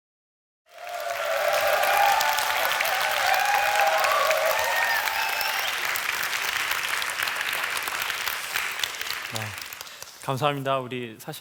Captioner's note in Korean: 박수와 환호